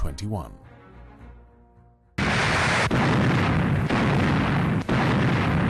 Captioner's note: guns firing